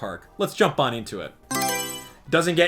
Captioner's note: Mario Selection Sound